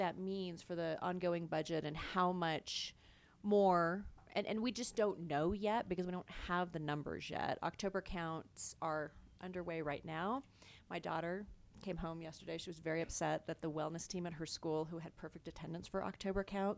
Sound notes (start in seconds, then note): none